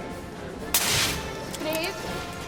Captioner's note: liquid hissing